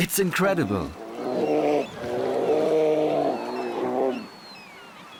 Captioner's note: snarls